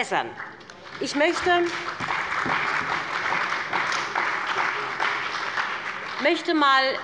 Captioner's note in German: Beifall bei BÜNDNIS 90/DIE GRÜNEN und der CDU